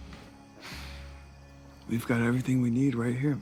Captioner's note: Kent sighing